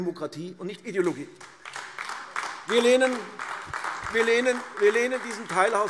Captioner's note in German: Beifall AfD